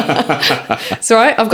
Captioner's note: laughing